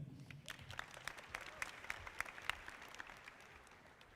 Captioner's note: audience clapping